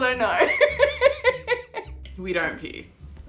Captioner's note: laughs loudly